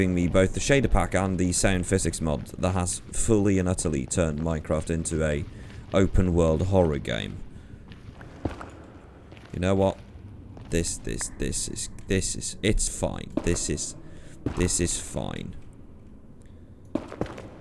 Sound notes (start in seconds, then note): none